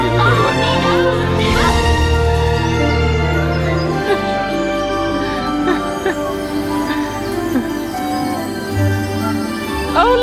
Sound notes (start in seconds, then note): 3.3 birds chirping; 6.0 chuckling